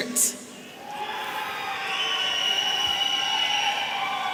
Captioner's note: audience cheering